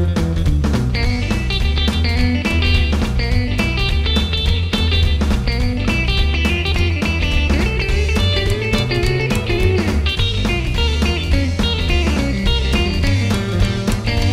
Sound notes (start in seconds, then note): none